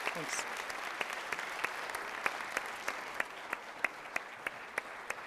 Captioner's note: audience applauds